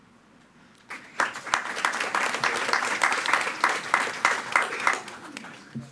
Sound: attendees clapping

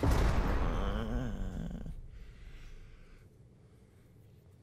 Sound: groaning

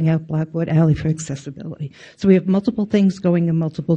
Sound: none

